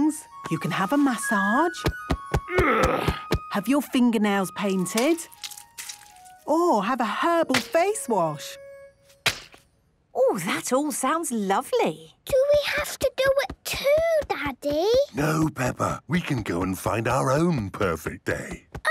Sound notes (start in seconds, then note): 1.8 thumping; 2.5 moaning